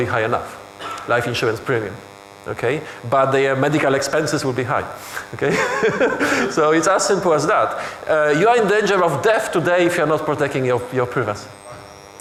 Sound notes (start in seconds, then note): 5.3 laughing